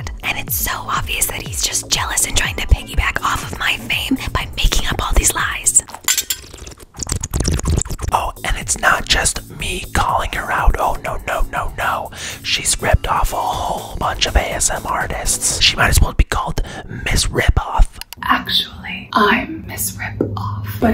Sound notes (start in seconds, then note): 6.3 slurping